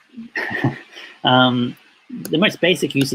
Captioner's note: laughs